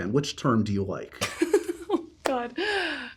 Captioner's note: laughs